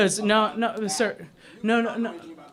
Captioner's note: spiking off microphone